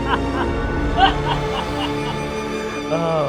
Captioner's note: manic laughing